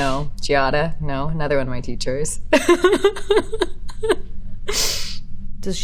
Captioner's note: laughing